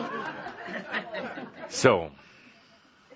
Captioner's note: laughter